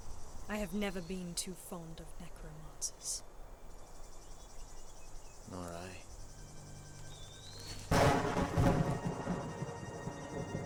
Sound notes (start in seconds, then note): 7.9 loud thunder